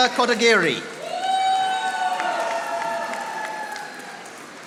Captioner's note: audience applauding